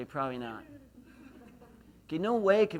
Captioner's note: laughs